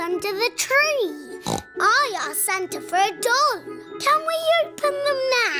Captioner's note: snorts